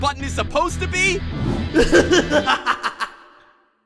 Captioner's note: yang laughs